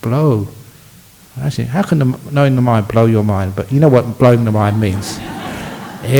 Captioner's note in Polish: Laughs